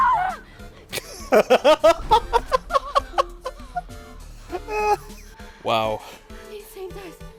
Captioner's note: hysterical laughter